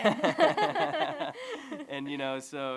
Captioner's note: laughter